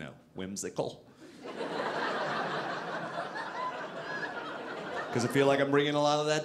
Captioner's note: audience laughing